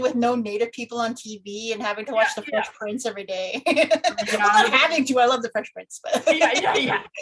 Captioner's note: laughs